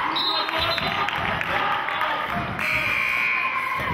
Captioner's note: buzzer sounding